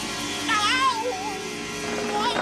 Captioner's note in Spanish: grita asustado